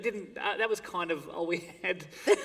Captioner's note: laughter